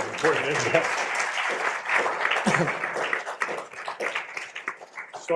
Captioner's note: applause